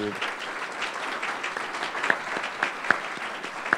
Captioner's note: applause